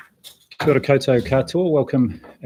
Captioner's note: non-english speech